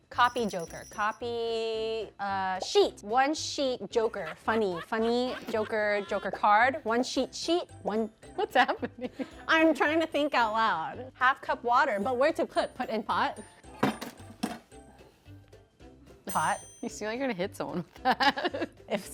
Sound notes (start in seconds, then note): 13.9 clanking sound; 17.7 laughing